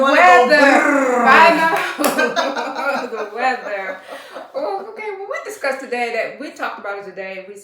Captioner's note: laughter